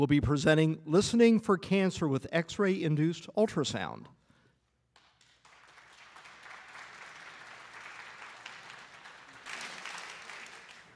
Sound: applause

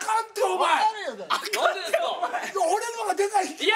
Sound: laughs

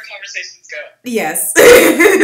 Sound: laughs

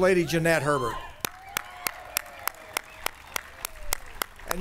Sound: applause

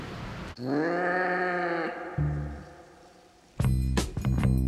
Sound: cat growls; upbeat music

